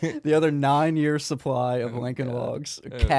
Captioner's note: laughing